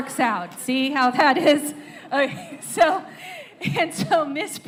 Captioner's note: laughter